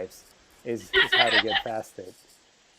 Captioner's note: laughter